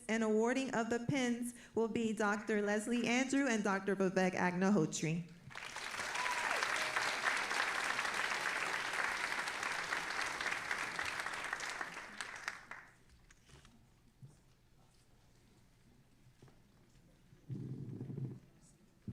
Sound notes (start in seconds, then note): 5.4 all applauding and cheering